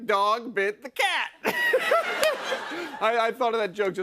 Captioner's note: laughs